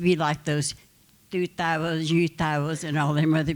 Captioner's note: speaking Comanche